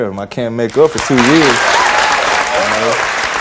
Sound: audience cheers

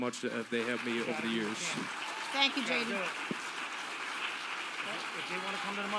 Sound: audience applauding

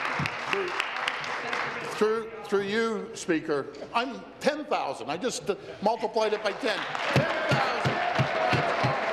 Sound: applause

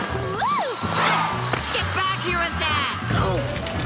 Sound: grunting

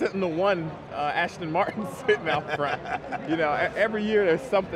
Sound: laughs

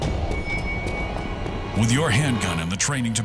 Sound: voiceover

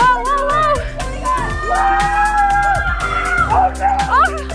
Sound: children yelling

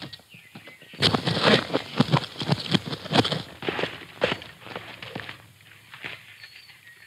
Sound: hooves pattering; birds chirping

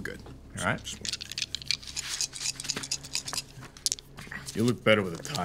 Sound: dice rolling

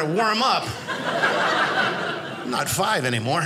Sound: audience laughing

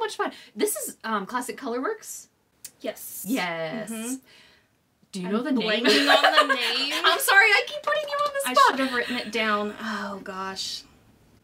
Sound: lots of laughter

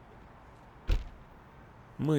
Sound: sound of trunk closing

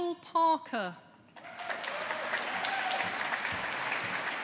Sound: audience applauding

